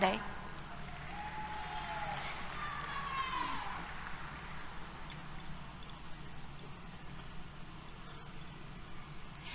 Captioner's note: applause